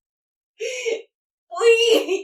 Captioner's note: crying